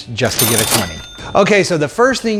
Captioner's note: cash register dings